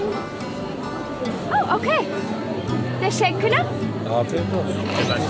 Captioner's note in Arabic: بالتركية